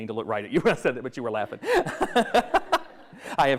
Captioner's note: laughs